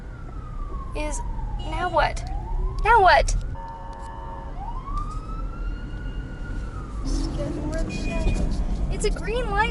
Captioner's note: sirens and honking